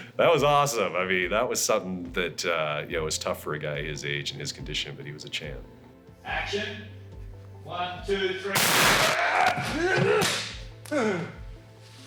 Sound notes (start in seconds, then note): 8.5 loud bang